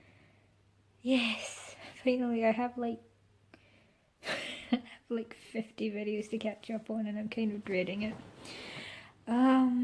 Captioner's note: laughs